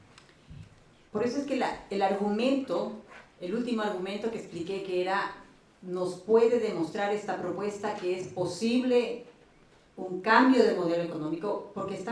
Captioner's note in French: Espagnol